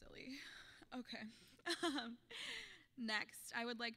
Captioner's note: laughing